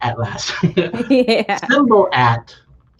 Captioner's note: laughs